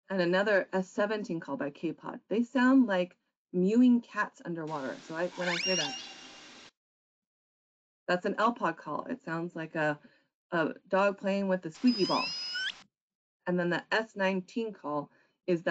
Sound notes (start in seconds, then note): 5.2 whale squeaking; 11.8 whale squeaking